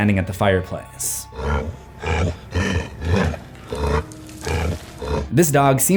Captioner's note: grunting